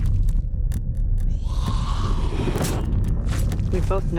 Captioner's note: Walker growling